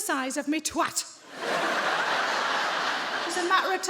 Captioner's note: audience laughs